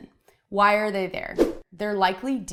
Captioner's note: whooshing